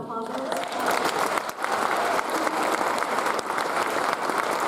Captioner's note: audience applauds